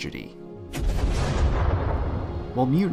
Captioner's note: thunder cracks